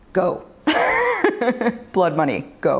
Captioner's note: laughs